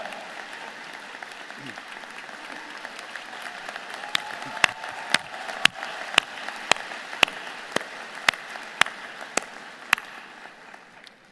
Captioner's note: applause